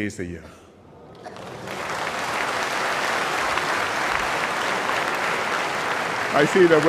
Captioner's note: applause